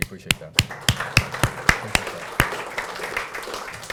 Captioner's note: applause